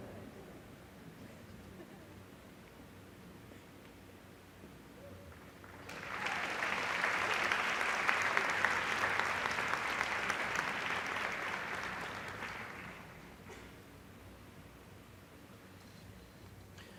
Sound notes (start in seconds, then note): 1.6 laughter; 7.2 applause